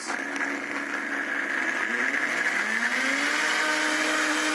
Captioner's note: blender running